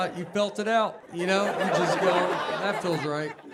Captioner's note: audience laughing